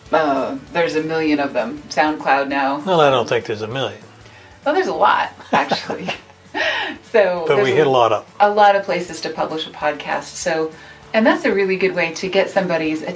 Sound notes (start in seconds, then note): 5.3 chuckles